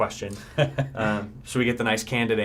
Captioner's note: laughter